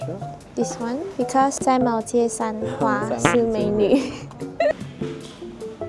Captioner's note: laughs